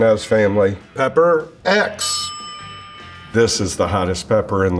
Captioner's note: bell dings